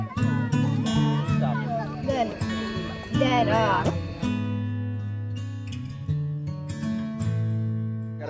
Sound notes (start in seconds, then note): 3.8 arm fart